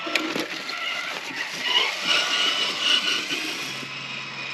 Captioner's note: vroom! Vroom!; vroom!